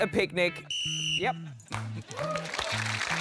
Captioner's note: blows whistle; applause